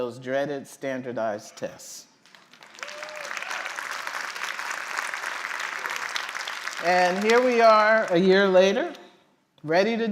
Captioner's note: applause